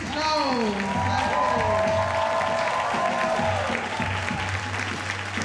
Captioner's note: audience cheering and applauding